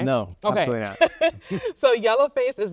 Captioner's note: laughing